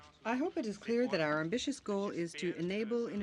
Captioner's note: speaking French